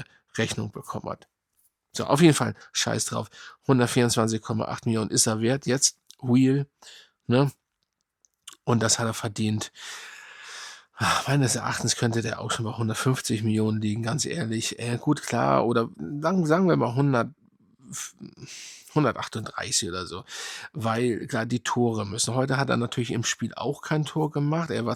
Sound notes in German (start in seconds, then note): 9.5 seufzt; 9.7 japst